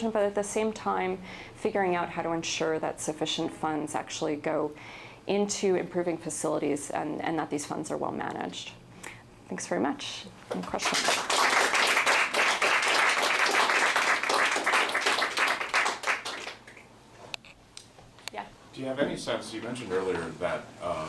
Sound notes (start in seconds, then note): 10.6 applause